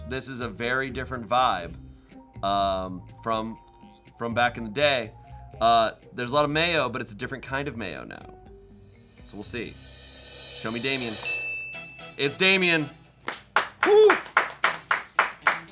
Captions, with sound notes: this is a very different vibe from back in the day. There's a lot of mayo, but it's a different kind of mayo now. So we'll see. Show me Damien. (bell dings) It's Damien. (upbeat music) Woo! (crew clapping)